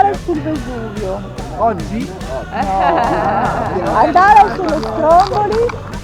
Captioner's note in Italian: Tutti ridono